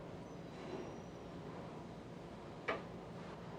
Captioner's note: none